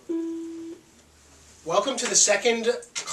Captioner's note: phone beeps